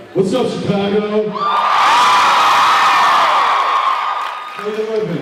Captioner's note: cheers, applauds